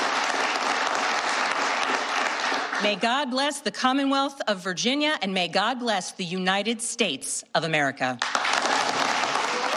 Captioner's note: applause